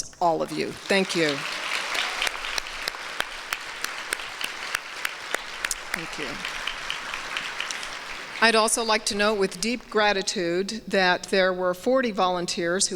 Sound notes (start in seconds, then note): 2.0 applause; 6.8 applause continues